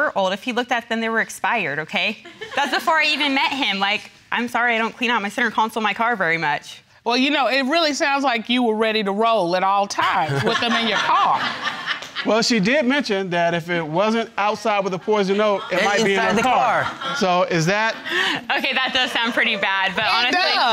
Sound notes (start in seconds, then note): 10.2 audience laughing; 18.9 laughs